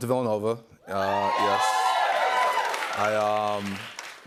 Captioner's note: cheers and applause